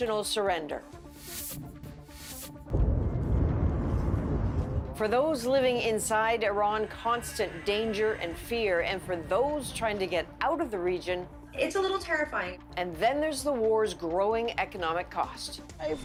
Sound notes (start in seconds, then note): 2.7 explosion